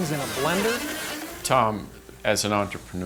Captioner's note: blender whizzes